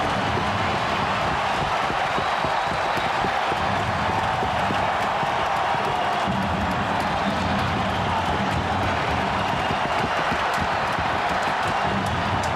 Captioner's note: horn sounding